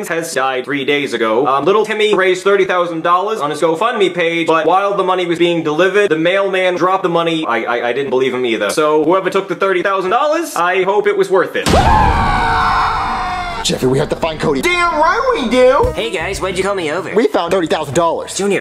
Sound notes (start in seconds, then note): 11.6 both screaming